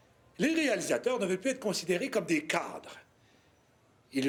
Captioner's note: Jean speaks French